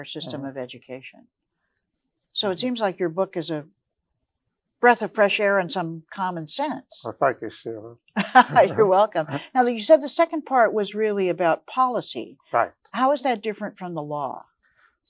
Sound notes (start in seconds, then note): 8.3 laughs